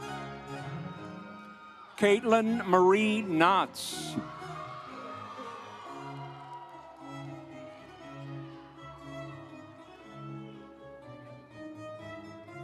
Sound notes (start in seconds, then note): 1.0 audience cheering; 4.8 instrumental music